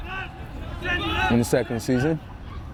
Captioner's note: players shouting